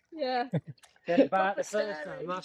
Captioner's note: laughter